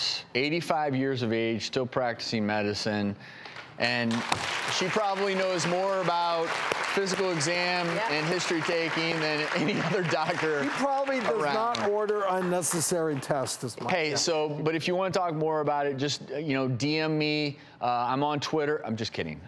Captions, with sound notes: 85 years of age, still practicing medicine. (audience applause) And she probably knows more about physical exam, and history taking, than any other doctor. She probably does not order unnecessary tests is my guess. But if you wanna talk more about it, just DM me, I'm on Twitter, I'm just kidding,